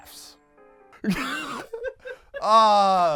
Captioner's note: laughs; groans